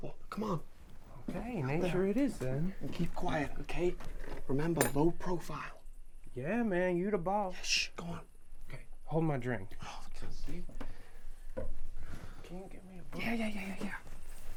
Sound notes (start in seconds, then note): 10.0 scoffs